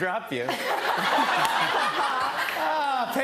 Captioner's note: laughter